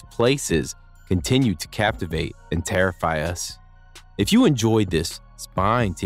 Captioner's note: voiceover